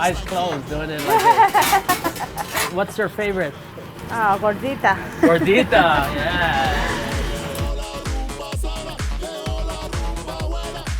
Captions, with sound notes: Eyes closed, doing it like this. (laughter) What's your favorite? Gordita. Gordita. Yeah. (salsa music)